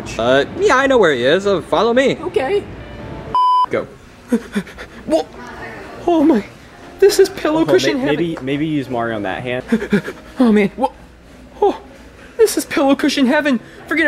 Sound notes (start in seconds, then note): 3.3 beep; 4.4 panting; 9.8 panting